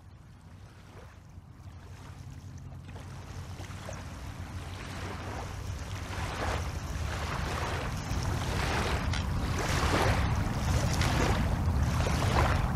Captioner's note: water splashing